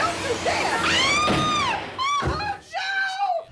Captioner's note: screams